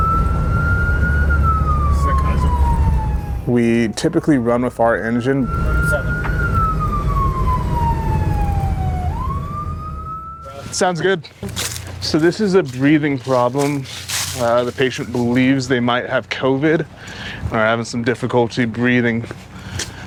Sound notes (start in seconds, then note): 5.8 siren wailing